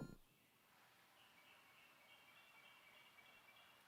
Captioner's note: birds chirping